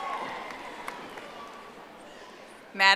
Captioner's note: audience applauding